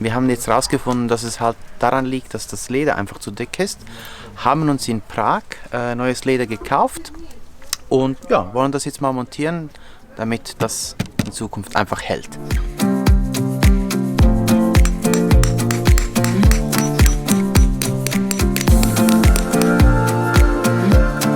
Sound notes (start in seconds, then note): 14.6 hammering on metal